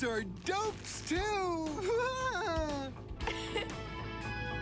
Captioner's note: laughs